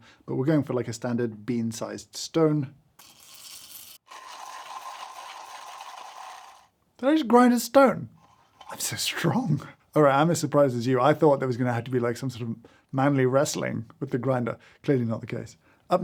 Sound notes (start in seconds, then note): 3.0 beans clacking; 3.0 beans grinding